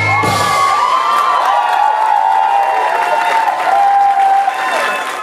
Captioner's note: audience applause